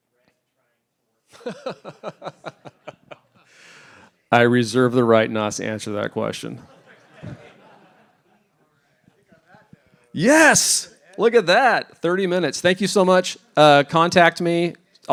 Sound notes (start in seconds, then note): 1.4 laughs; 6.6 laughter